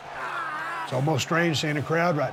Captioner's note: Bobby grunts